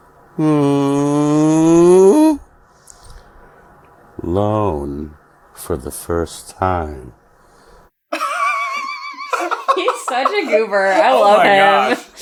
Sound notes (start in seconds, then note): 8.2 giggles